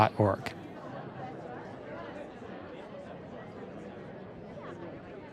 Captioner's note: crowd chattering